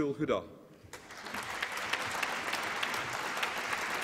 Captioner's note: applause